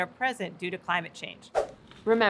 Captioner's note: whoosh